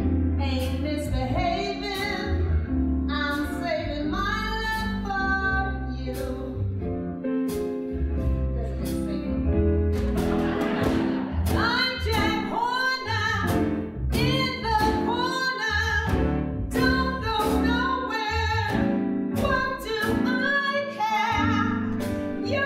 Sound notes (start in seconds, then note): 7.1 piano music; 10.0 audience laughing